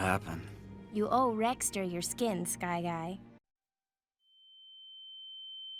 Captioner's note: sound cuts out and droning whistle plays